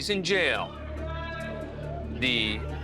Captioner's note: indistinct chatter